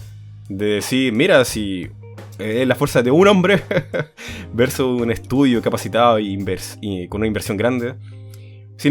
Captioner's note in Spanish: risas